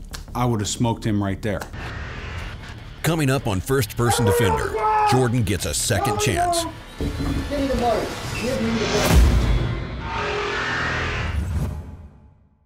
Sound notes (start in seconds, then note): 3.1 voiceover